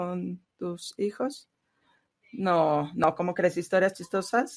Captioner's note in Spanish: a través de intérprete